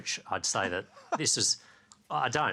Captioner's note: plibersek laughs